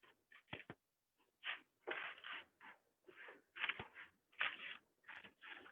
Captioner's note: more shuffling